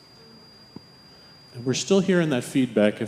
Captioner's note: machine beeping